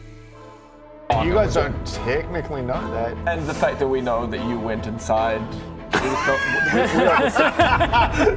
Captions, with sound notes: You guys don't technically know that And the fact that we know that you went inside *laughs*